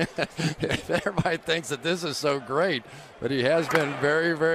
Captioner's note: laughs